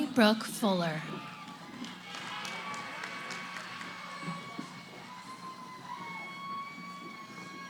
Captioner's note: cheering